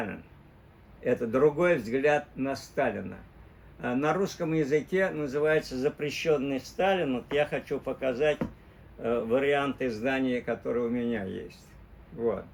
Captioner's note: in Russian, “The Forbidden Stalin”